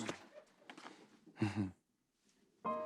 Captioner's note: chuckles